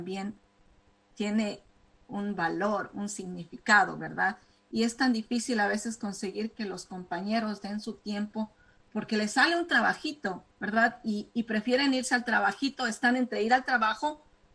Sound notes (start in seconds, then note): 1.0 speaking spanish